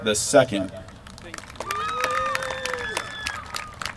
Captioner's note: applause